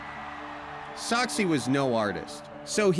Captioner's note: crowd cheers